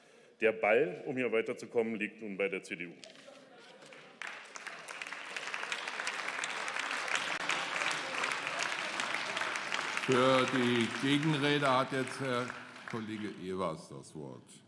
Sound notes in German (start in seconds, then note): 3.7 Beifall